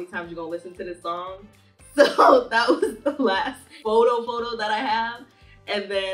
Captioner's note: laughing